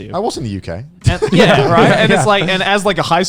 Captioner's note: laughing